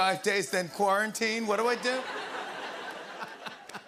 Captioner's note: laughter